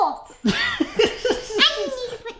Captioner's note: laughs